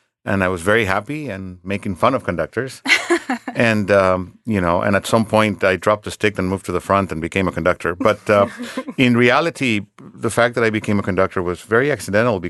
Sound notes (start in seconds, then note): 2.8 laughing; 8.0 laughing